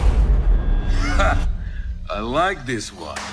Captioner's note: man yelling battle cry